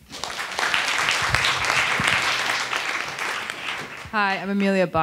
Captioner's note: attendees applauding